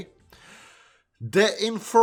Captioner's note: inhale